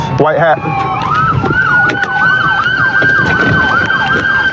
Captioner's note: siren w waililingng